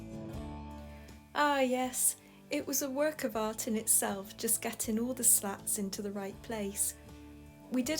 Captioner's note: voiceover